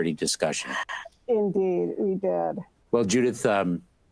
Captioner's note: chuckles